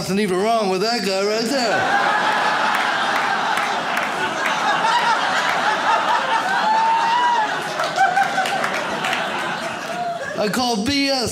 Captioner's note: audience laughs